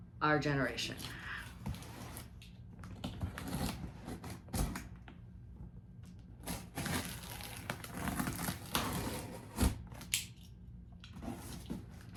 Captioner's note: box-cutting noises